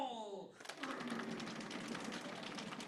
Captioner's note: tapping